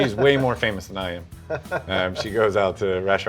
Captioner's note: laughs